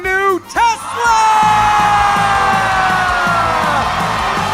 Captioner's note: audience cheering